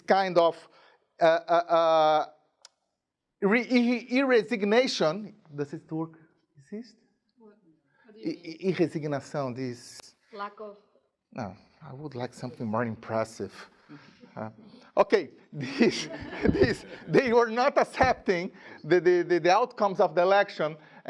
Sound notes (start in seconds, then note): 7.9 speaking in a different language; 15.6 chuckling